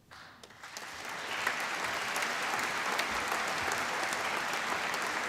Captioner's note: applause